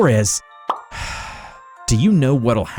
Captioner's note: sigh